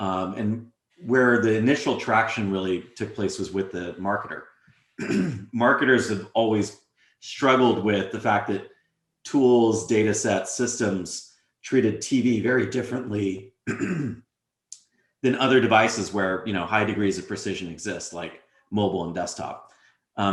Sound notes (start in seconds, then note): 13.6 cough